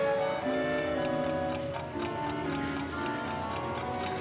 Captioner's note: clock ticking